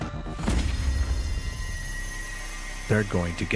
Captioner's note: gun fires